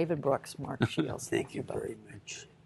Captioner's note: laughter